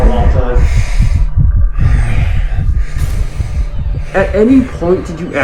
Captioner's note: heavy breathing, heart thudding